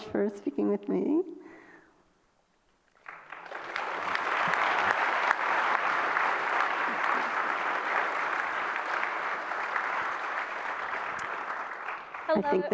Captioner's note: applause